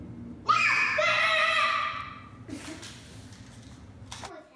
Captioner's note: screams